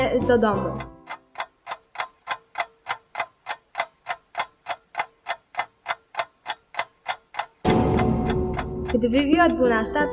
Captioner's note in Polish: tykanie zegara